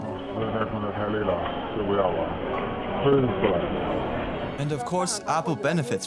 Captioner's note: recorder receiving Chinese language